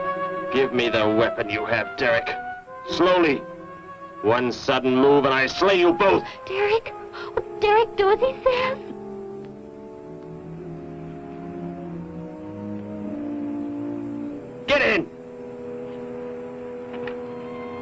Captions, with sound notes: Give me the weapon you have, Derek. Slowly! One sudden move, and I slay you both! Derek. Oh, Derek, do as he says. [ CITY TRAFFIC ] Get in!